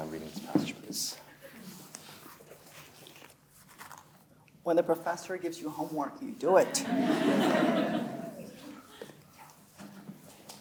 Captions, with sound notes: Do you mind reading this passage, please? (paper rustles) - When the professor gives you homework, you do it. (audience laughing)